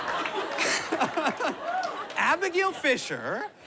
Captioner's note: laughs